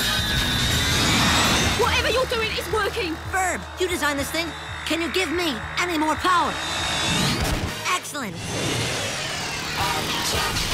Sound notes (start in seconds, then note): 5.3 imitates Captain Kirk